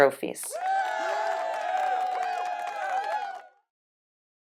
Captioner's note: clapping and cheering